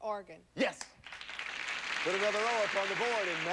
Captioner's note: audience applauding